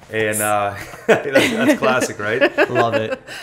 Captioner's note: laughter